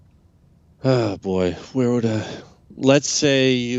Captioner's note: sighs